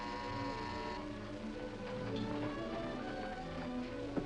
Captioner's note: buzzer rings